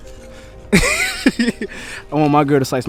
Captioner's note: interviewee laughing